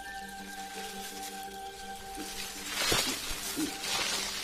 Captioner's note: leaves rustling